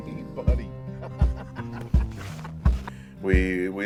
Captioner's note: laughing